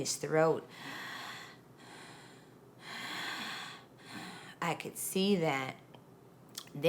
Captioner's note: inhaling and exhaling slowly